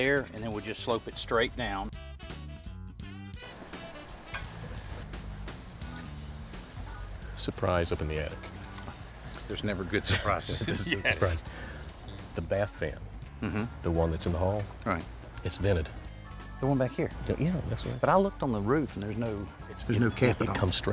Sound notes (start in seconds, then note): 10.0 laughing